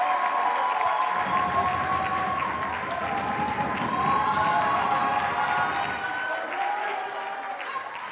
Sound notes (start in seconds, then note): 1.2 audience members pounding on tables